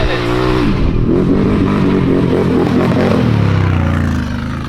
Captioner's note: ATV engine roaring